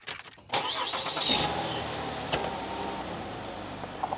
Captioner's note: engine revs